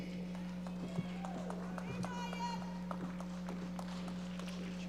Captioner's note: audience applauding